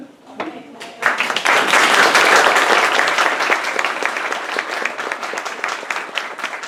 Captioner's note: applause